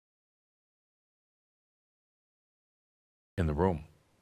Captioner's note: none